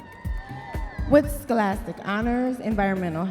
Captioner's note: audience members cheering